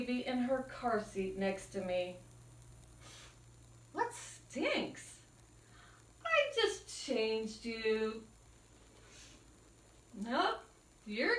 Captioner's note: sniff